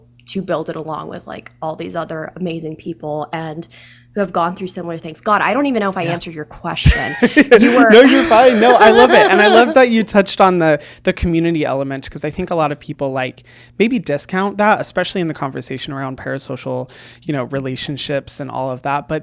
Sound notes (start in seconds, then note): 6.9 laughs